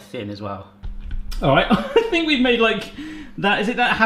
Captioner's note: laughs